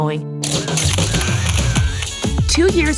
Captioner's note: camera shutters clicking